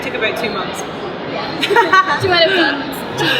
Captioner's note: laughs